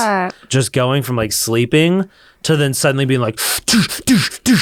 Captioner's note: grunts